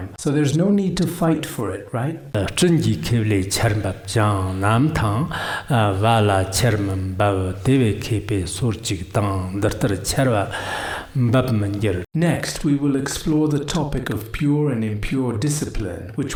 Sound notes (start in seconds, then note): 2.3 giving oral transmission in Tibetan